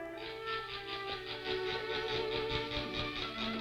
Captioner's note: toy winding; gentle music